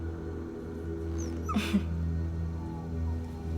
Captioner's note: scoffs